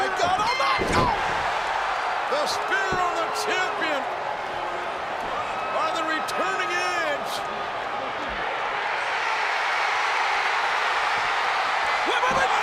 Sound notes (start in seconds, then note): 0.7 mat thumping; 2.7 crowd booing; 8.8 crowd cheering